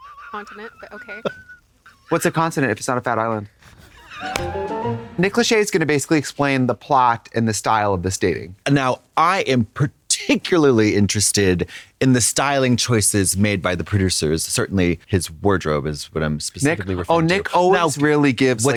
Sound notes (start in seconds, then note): 0.0 Katya hisses; 4.1 whimsical chime